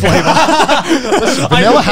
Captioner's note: all laugh